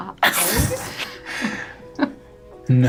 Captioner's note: laughing